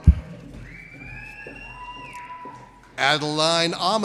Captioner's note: audience cheers